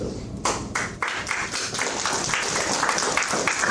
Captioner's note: applause